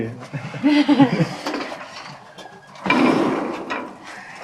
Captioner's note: all laugh